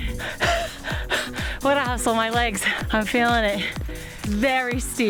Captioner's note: panting